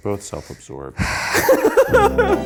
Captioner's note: laughs; mellow music